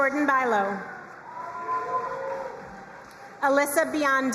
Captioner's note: crowd cheering and applauding